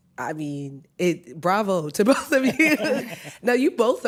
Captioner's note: laughter